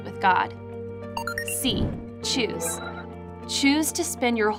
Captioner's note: computer bleeping